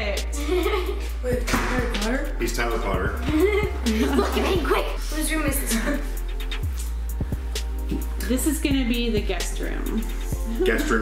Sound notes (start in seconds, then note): 3.2 laughs